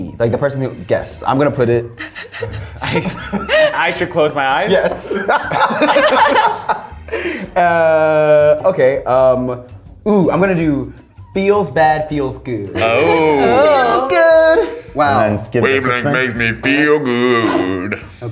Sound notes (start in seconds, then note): 1.9 laughs; 4.6 all laughing